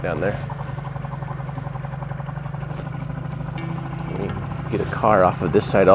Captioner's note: boat engine puttering